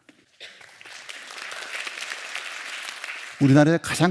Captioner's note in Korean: 박수